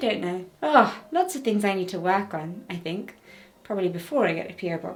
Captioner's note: sighing